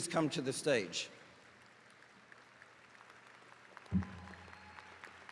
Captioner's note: attendees cheering